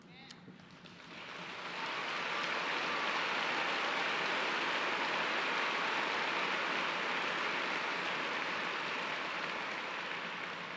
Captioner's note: applause